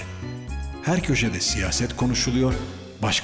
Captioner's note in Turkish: Ahmet dış ses